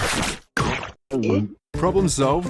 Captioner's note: swallows